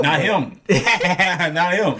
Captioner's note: laughing